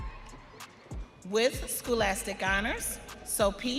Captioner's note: audience cheering